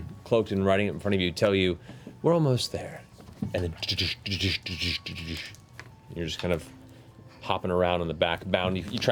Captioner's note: hoofbeats